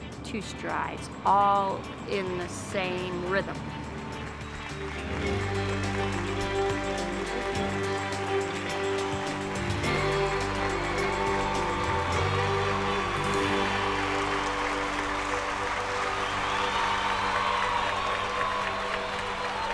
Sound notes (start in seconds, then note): 4.5 cheers and applause; 7.5 upbeat country music; 16.6 cheers and applause